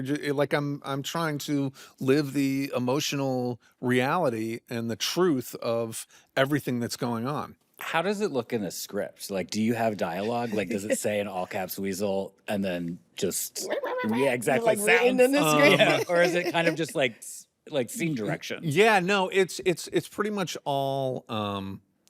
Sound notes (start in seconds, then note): 13.4 mimicking weasel; 15.4 chuckles